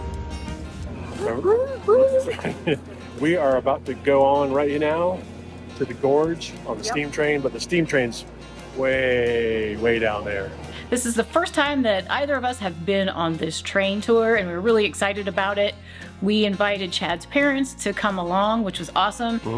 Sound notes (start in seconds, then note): 1.3 imitating train whistle tooting; 1.3 chuckles